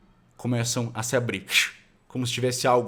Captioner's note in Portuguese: fshh